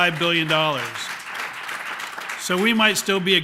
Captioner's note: applause